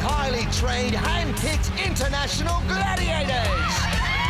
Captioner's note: cheering